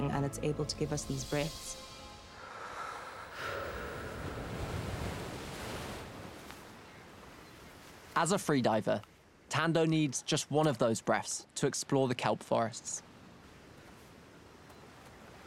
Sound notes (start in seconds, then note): 1.6 blowing